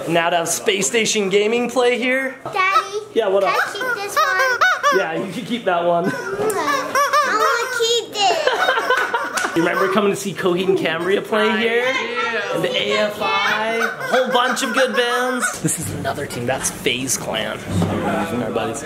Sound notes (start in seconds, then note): 3.5 toy squeaking; 8.7 dad laughing